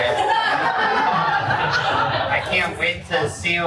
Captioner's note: cast and crew laugh